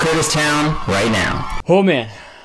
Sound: feedback echoing

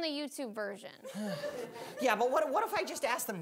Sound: audience laughing

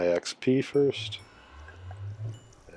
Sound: xp pings

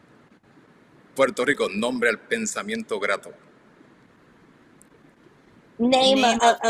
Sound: speaks in foreign language

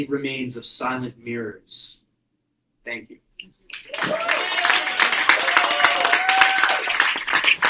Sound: applause 33.59-34.10

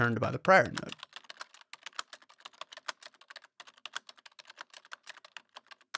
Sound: more frantic typing noises

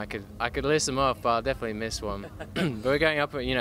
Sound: laughs

